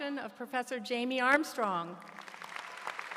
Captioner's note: applause